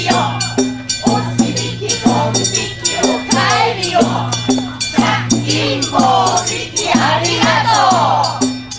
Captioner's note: chants